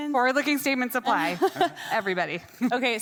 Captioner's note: laughing